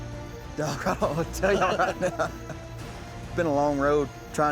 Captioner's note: laughter